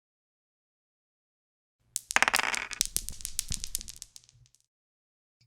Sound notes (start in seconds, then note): 1.9 dice rolling